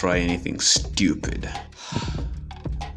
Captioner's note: sigh